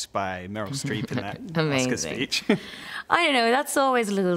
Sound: laughs

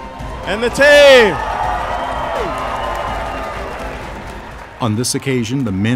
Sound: audience applauding and cheering

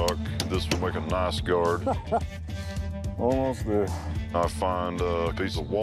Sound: chuckles

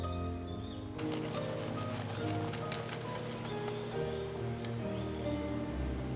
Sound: slicing

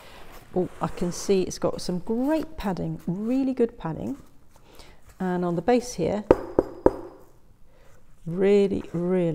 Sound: knock, knock, knock

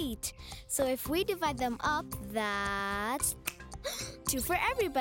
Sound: snapping fingers

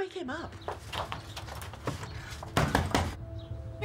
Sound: birds chirping; knocking furiously

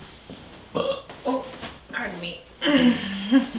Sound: burps

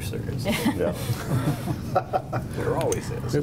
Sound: laughing

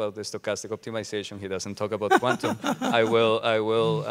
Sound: all laughing

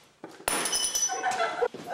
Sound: laughter

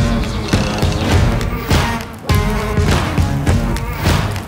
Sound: fire crackling

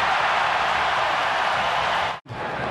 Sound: cheering and Applause

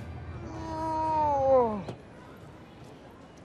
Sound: groaning

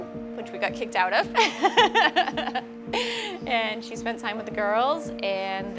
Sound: chuckles

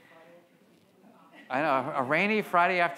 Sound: audience murmuring

